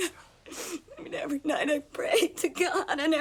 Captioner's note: sobs